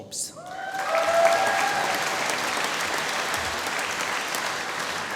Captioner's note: applause